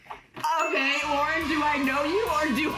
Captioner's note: children cheering sound